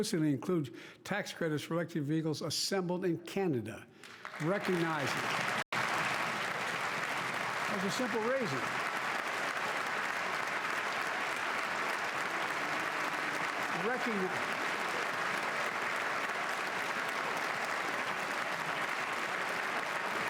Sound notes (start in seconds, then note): 7.1 cheers and Applause